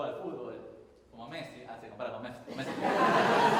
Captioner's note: jokingly; crowd laughs